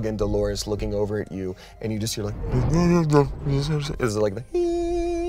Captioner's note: grumbles; makes high tone